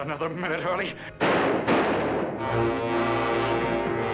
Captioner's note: gunshots